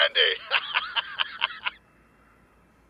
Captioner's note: laughs